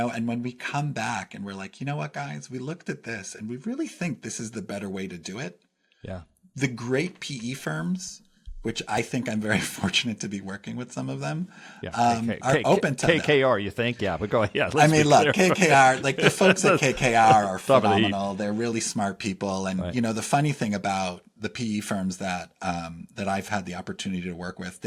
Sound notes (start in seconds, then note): 14.6 laugh